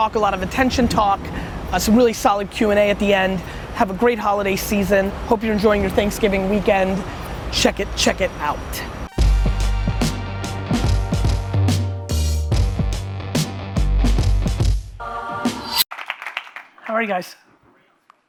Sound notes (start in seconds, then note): 9.1 funky upbeat music; 15.9 audience applauding